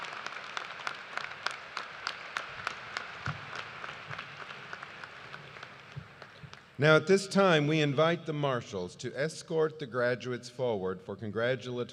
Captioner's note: cheers and applause